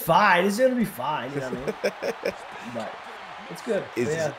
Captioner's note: laugh